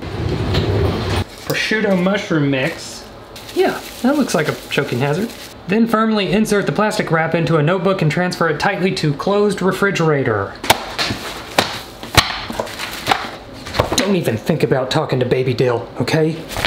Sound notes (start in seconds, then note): 0.3 loud rumbling; 12.1 loud tapping